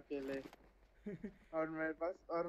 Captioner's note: laughs